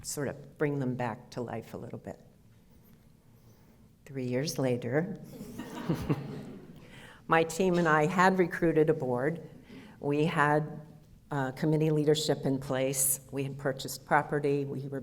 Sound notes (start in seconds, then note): 5.4 audience laughter